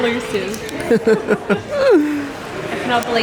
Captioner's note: laughing